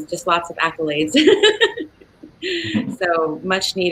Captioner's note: laughing